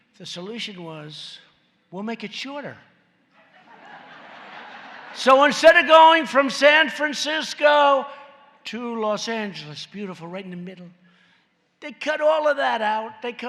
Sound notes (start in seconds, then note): 3.3 laughter